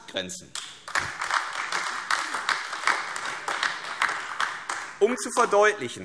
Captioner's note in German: Beifall AfD